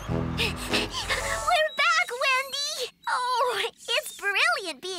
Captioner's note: panting